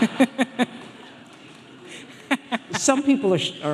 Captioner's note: audience laughing; scattered applauding